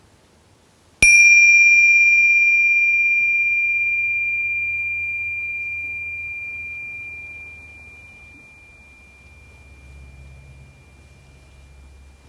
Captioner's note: bell ringing